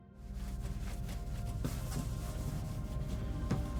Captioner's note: soft gentle music; cloth scraping